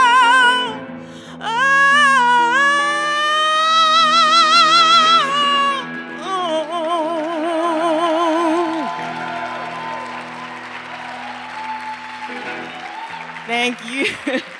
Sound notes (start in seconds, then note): 7.1 attendees cheering